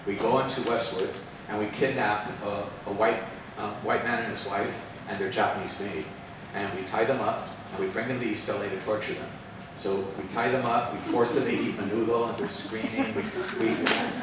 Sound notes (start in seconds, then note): 11.6 speaks Spanish; 13.9 participants laughing